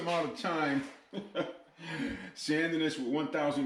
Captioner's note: laughing